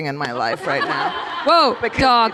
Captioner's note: laughter